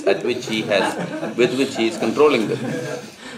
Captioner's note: laughter